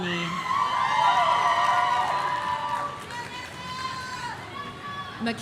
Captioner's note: audience cheering